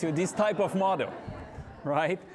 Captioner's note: audience laughing